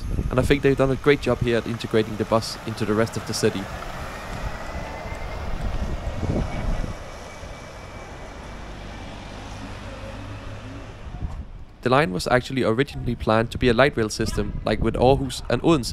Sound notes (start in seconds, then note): 3.7 electric bus noise